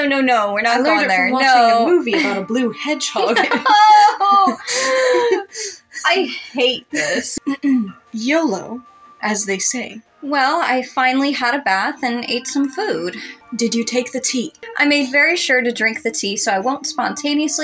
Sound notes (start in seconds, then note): 3.0 laugh; 3.1 chuckle; 4.6 inhale; 7.2 clears Throat